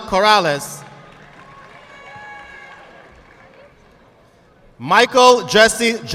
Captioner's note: audience clapping